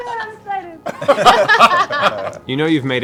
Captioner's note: laughter